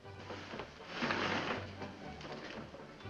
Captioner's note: window slides open